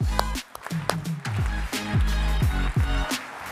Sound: audience applauding; upbeat music

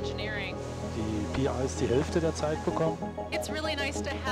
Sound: scientist speaking in German

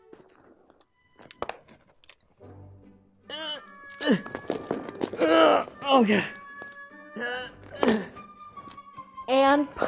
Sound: rolling on the ground and grunting

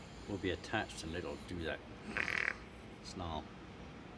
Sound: snarls

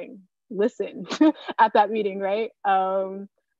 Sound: chuckling

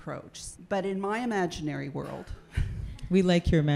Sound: laughs

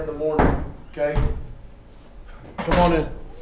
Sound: knocking

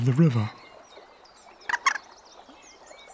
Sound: moorhen calls

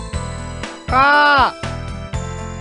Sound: crow noises

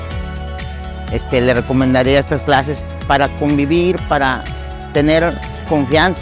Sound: speaking in foreign language

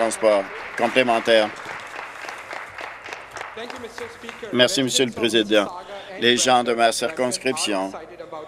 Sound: applause

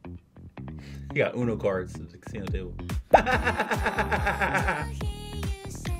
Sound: laughs

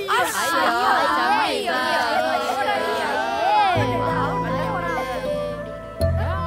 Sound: children mocking

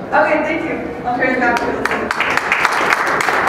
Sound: applause

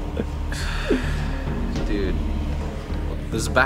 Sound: sighs

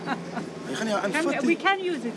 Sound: laughs heartedly; Clyde speaks Afrikaans

